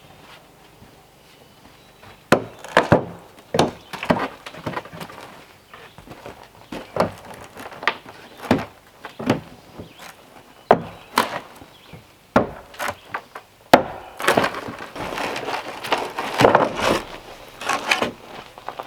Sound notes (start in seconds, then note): 2.3 hammering